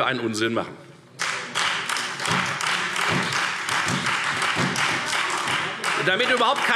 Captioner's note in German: Beifall Freie Demokraten und SPD